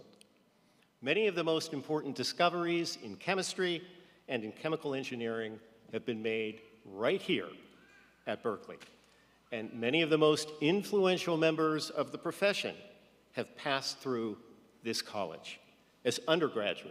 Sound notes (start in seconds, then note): none